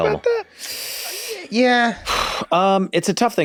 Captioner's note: Glenn huffs; Rob inhales sharply